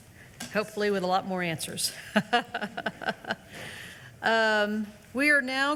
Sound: laughs

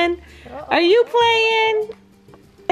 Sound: laughs

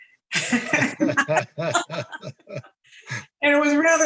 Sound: attendees laughing

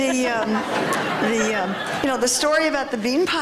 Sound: laughter

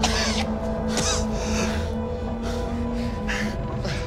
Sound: coughing

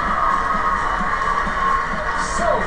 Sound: TV volume is louder

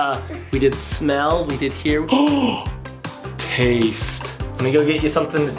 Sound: gasps

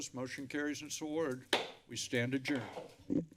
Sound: thud

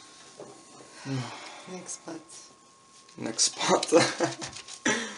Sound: sighs

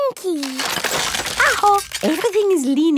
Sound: house creaking

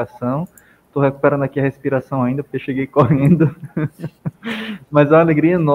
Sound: laughs

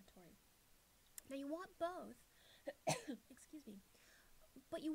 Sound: cough

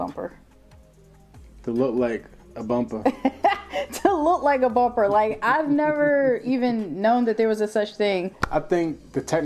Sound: laughs

